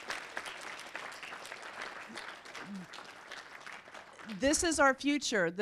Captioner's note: audience applauding